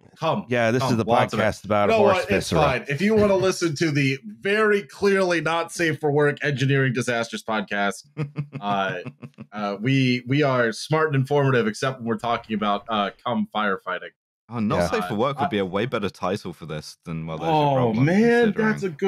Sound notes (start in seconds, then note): 8.1 chuckles